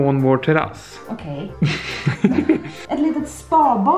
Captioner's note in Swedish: båda skrattar